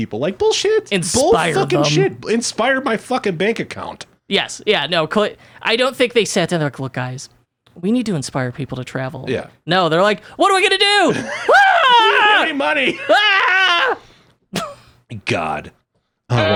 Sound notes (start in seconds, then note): 12.8 screaming